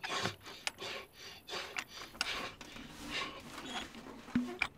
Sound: heavy breathing

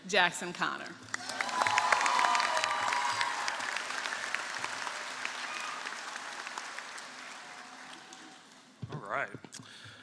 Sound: applause

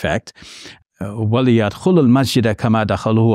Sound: speaks in Arabic

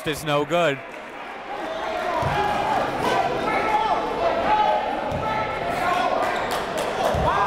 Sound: crowd talking; coaches yelling

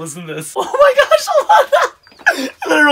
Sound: laughs

